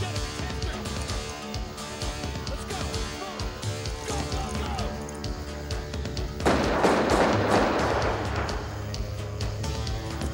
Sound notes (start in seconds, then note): 6.4 gun firing